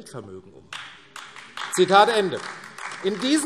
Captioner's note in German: Beifall AfD